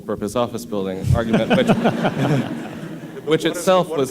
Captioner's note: laughter